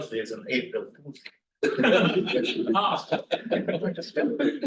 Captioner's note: students laugh